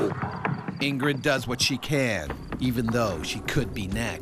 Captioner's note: voiceover